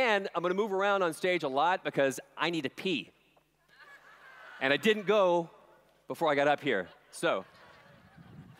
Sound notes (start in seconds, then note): 3.6 laughter